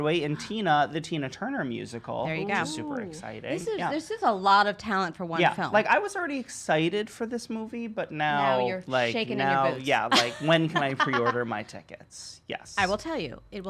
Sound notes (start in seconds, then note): 10.0 laughs